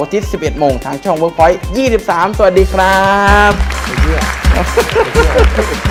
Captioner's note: clapping